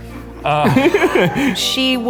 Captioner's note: laughing